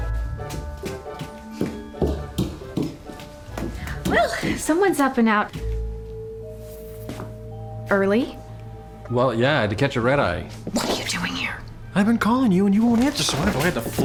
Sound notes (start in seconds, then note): 0.0 fast footsteps